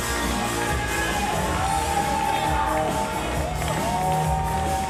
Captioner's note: crowd cheering